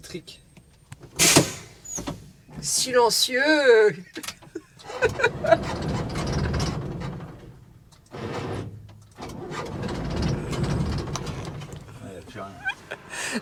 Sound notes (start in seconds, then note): 4.0 laughs